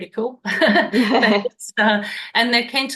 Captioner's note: laughs